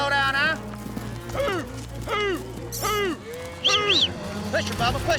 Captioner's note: prompting cattle, whistling